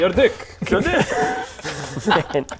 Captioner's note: childish giggles